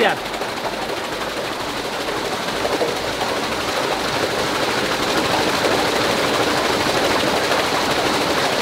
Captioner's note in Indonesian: Suara turbin